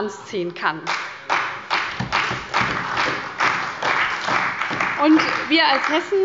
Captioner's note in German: Beifall bei der CDU und dem BÜNDNIS 90/DIE GRÜNEN